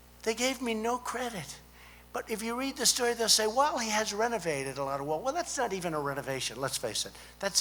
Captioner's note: none